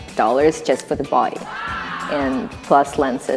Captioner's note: crowd